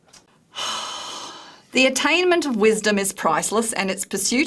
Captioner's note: sigh